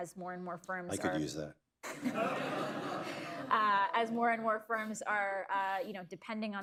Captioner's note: laughter